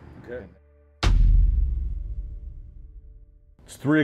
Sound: text thuds

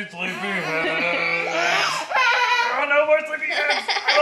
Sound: laughing

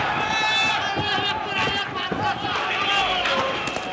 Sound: gunfire; shouting

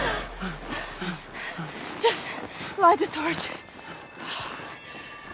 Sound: none

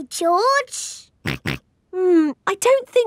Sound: snorts

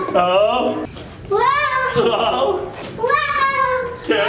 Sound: dad laughing

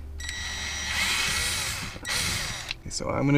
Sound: drilling

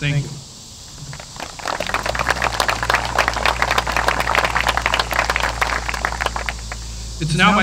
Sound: applause

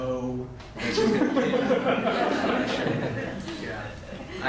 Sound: laughter

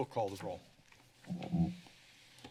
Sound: mic noise

